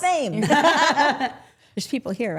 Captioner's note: group laughing